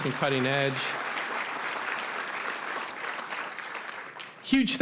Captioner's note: applause